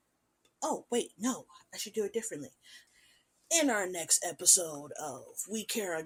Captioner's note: Anime narrator voice